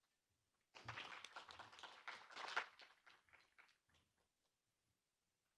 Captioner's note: audience applauds